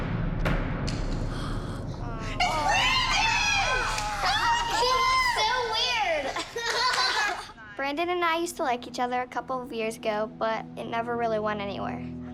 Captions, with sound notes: It's Brandon! He looks so weird! [laughter] Brandon and I used to like each other a couple of years ago, but it never really went anywhere.